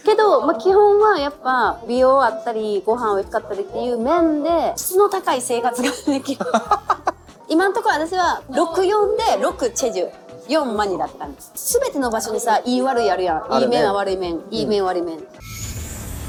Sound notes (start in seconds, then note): 5.7 laughing